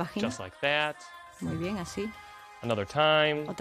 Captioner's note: speaks in english